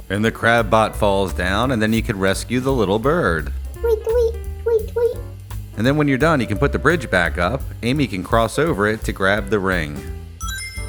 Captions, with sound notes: And the crab bot falls down, and then you can rescue the little bird. [tweet tweet tweet tweet] And then when you're done, you can put the bridge back up. Amy can cross over it to grab the ring. [Sonic Ring Chime]